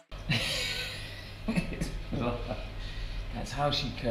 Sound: Leon laughs

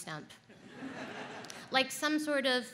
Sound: audience laughs

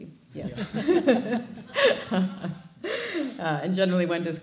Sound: laughs

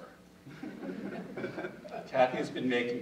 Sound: audience chuckling

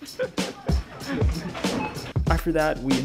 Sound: laughs

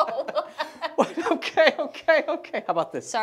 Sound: laughing

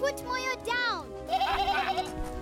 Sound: scared bleating; evil laughter

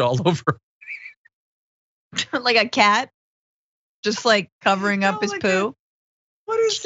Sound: laugh

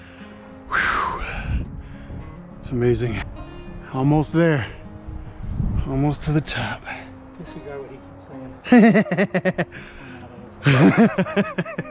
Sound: laughter

